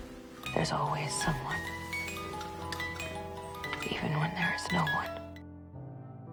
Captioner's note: voiceover